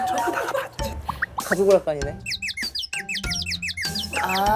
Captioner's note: whispering intensely